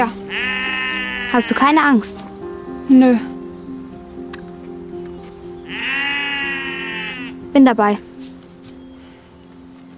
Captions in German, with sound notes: Hast du keine Angst? - Nö. (Mehrstimmiges Blöken) Bin dabei.